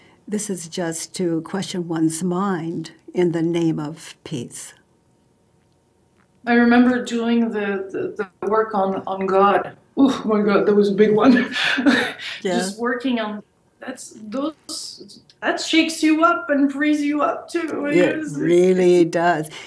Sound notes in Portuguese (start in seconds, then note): 11.0 risos